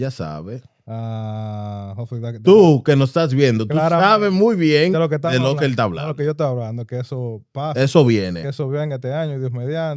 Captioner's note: speaking In Foreign Language